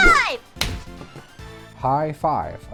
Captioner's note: slap